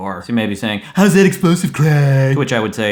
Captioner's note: low mocking voice, slurring